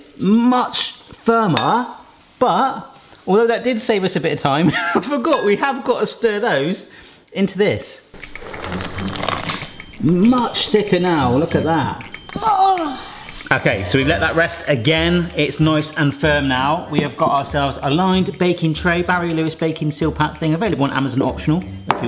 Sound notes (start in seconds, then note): 8.3 timer ticks; 12.4 groans